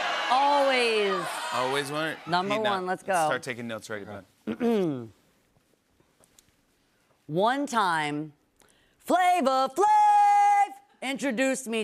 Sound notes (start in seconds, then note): 4.5 clears throat